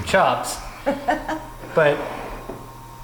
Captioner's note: laughs